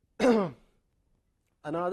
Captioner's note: cough